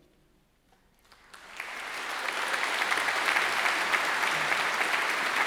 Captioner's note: graduates clapping